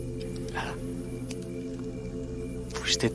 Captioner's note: whispering